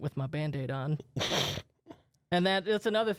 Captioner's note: laughs